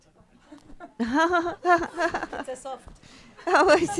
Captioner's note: everybody laughing